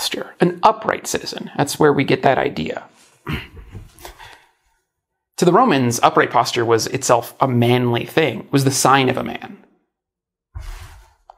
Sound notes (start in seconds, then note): 3.3 grunts while sitting up